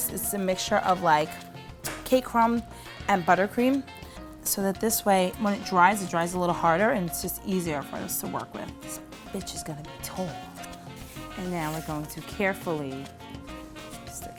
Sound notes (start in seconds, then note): 9.0 quietly